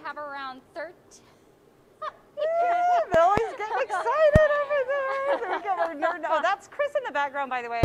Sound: laughter

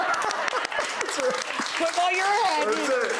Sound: Jesse laughs; audience claps

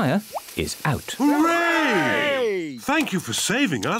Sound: cheering

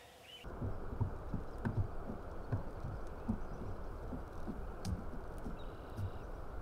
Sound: sounds of nature as Rangers observe moment of silence

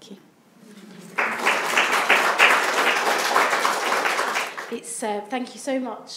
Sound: audience applauds

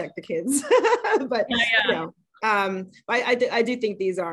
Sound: laughs

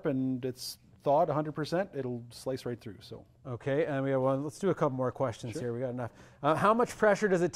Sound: none

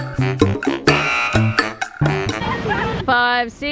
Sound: buzzer honks

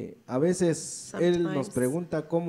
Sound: speaks in foreign language

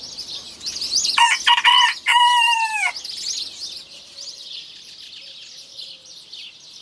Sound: birds chirping; rooster crowing

